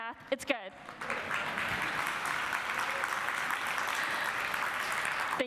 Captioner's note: audience applauds